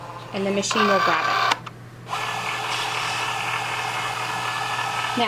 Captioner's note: machine whirring